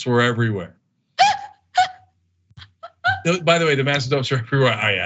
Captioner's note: laugh